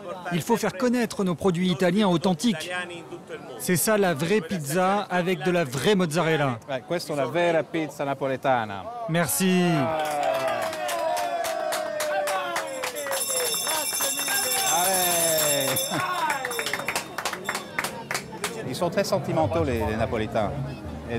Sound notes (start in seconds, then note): 7.0 in Italian; 10.0 applause